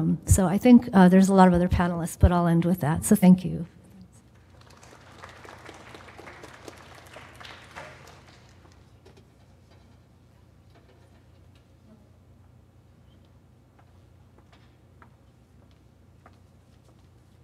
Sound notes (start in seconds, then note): 4.3 applause